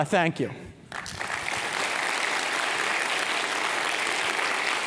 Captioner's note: audience clapping